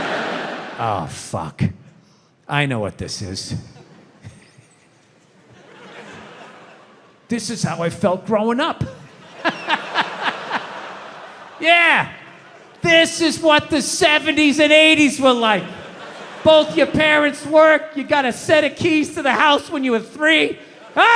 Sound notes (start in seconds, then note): 0.0 audience laughs; 9.0 laughs; 10.8 audience laughs